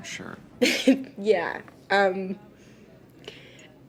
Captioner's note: laughs